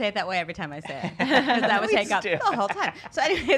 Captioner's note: laughs